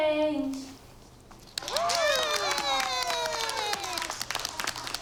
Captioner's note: cheering